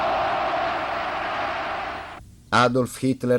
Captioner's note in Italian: Applauso